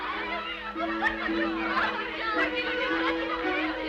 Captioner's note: girls chattering; soft, upbeat music